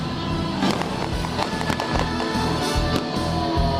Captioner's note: guns popping